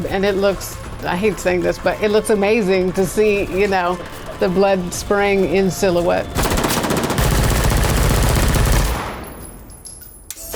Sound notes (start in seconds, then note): 6.2 guns shooting